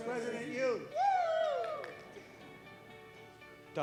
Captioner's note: cheering